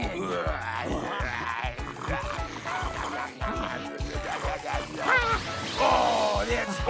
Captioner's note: scoffing and chomping